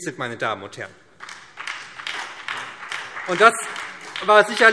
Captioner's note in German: Beifall SPD und BÜNDNIS 90/DIE GRÜNEN